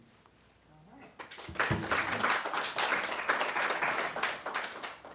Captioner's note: applause